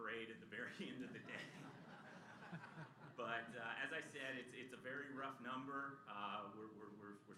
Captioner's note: laughter